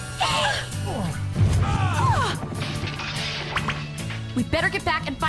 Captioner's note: grunting; crashing